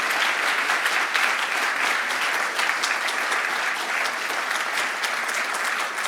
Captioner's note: applause